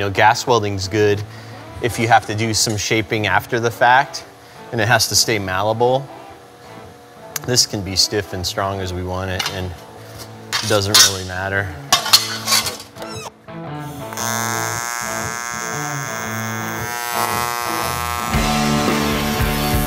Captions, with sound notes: You know, gas welding's good if you have to do some shaping after the fact, and it has to stay malleable. This can be stiff and strong as we want it, and it doesn't really matter. (high-pitched TIG buzz) (loud rock and roll)